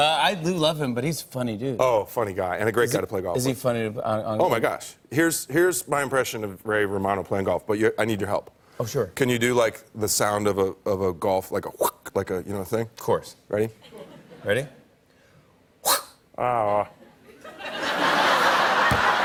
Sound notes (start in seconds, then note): 13.7 imitates golf club whooshing; 16.7 laughter